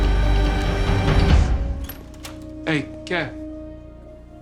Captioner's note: door opens